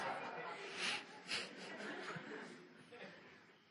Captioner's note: laughter